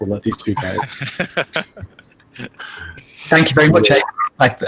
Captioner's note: laughs